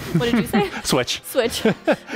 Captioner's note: laughing; laughs